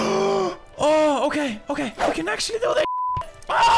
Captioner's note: beep